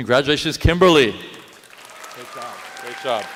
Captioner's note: applause